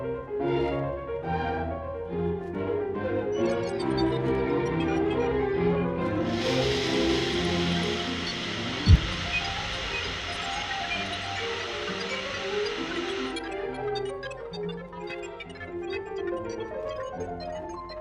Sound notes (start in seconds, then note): 3.3 Kellogg beeping; 6.1 steam hissing; 6.1 Kellogg beeping